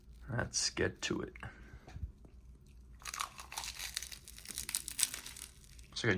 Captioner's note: loud crunching of nori